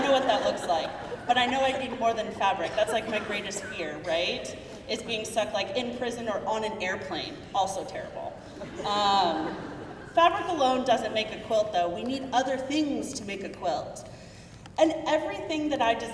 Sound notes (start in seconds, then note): 9.1 crowd murmuring